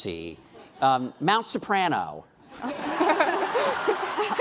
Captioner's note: laughing